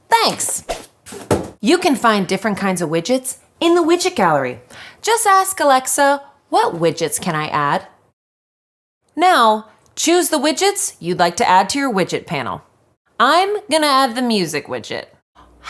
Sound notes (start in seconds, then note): 1.0 box falling